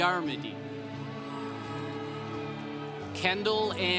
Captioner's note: congregation cheering